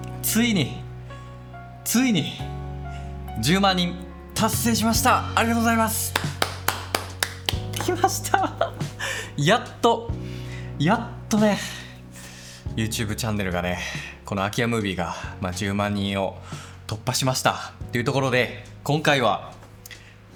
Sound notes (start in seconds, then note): 6.1 applause